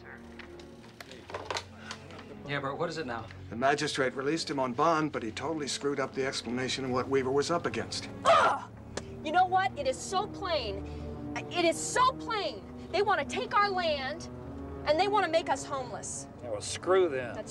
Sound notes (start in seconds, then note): 7.3 grunting